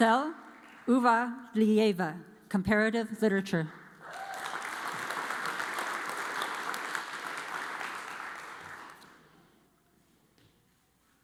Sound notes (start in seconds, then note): 0.0 audience applauds; 4.0 audience applauds